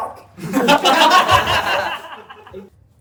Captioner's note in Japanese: 笑い声